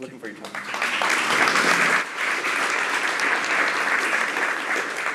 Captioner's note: applause